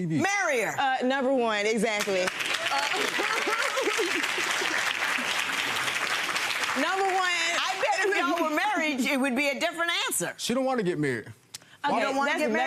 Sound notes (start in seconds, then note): 1.9 crowd clapping